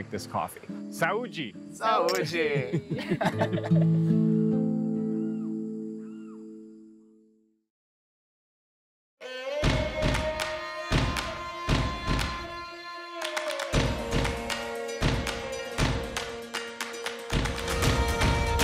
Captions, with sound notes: It's so appropriate for this... place. This thing is built out on the edge of the cliff with this huge waterfall right below us, and then we're getting ready to watch sunset. I love the coffee business. [sedate music] [singsong] Ta-da. Ooh, when you put the work into it, hand-grinding it, it's just so much more rewarding.